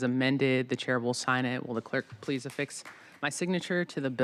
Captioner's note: applause